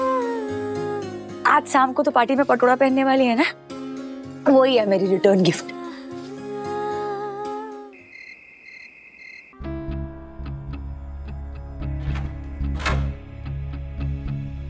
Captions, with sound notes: You will wear the Patola Sari during the evening party and that's my return gift. [crickets chirping]